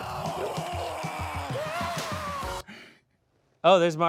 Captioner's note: man yelling